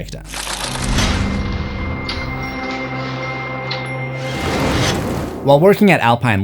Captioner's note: impact